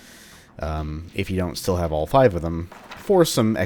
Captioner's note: journal closes